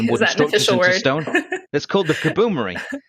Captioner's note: laughs